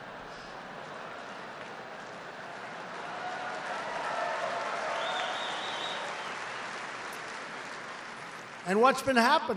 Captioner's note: applause